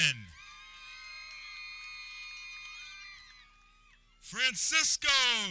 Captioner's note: people cheering